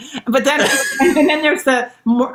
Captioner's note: laughs